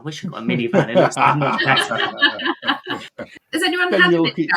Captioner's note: laughing